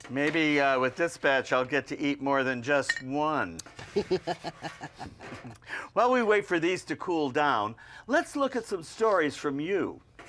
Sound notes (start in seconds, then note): 3.8 Gabe laughs